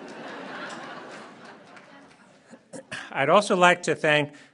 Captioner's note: laughter